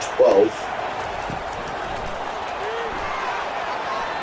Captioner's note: crowd Noises